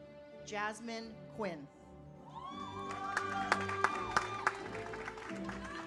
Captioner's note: audience applauds